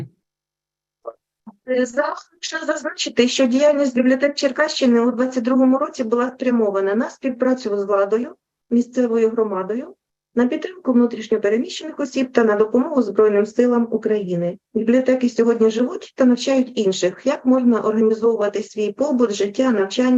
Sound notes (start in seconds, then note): 2.0 foreign Language Spoken